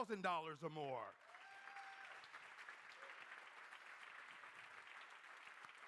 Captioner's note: crowd cheering and applauding